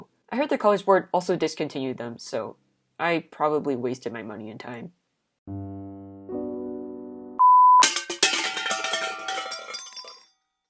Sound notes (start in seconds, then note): 7.8 tins crashing